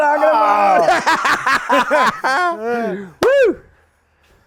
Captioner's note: man laughs